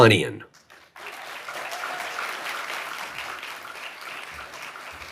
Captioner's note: audience applauding